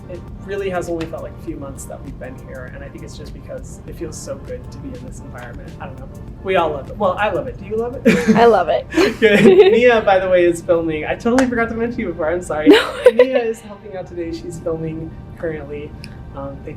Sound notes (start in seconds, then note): 12.6 laughs